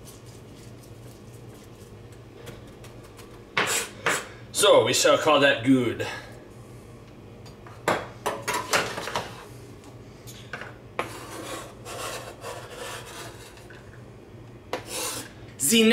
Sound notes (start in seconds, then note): 0.0 squish squish